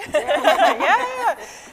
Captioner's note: scientists laughing